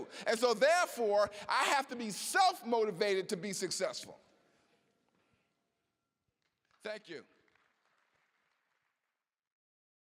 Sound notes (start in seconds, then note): 6.6 applause